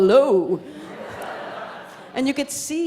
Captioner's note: audience laughs